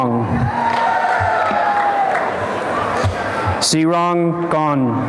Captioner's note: applause and cheering